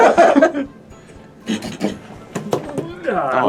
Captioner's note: pounding noise